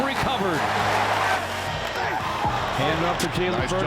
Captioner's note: crowd cheering